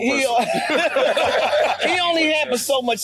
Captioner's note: everyone laughing